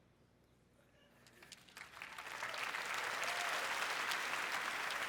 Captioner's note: applause